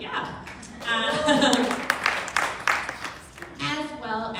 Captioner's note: crowd clapping